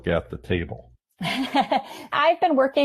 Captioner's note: laughing